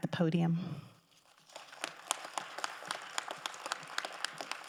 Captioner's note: crowd applauding